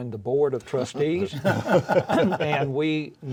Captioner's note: all laugh